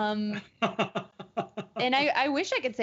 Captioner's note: laughing